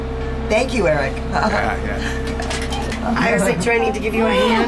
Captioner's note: laughs